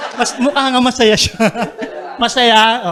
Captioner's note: chuckles; laughter